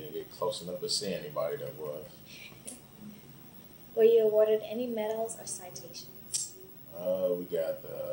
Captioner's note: laughs